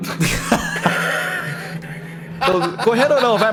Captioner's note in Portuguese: risada